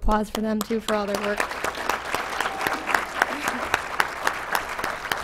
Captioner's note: applause